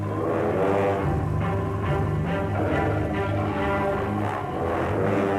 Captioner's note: growling